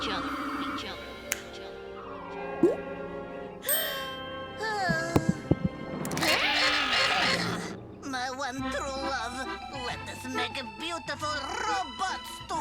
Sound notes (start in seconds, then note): 1.2 fingers snap; 2.1 Otto gasps; 2.1 heart beat pumping; 7.8 romantic music